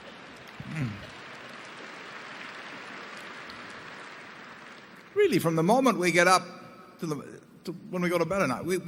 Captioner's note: laughter and applause